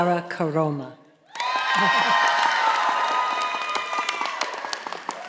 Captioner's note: audience applauding